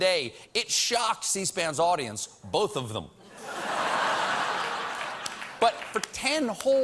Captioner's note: laughter